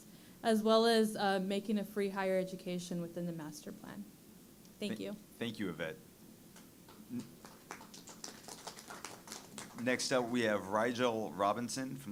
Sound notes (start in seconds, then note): 7.3 audience applauding